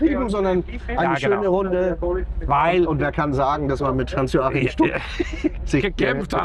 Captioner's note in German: gelächter